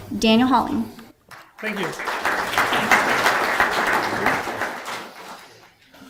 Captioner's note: audience applause